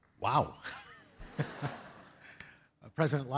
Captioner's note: laughs